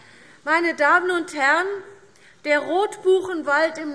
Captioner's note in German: none